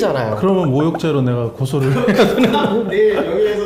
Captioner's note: laughter😁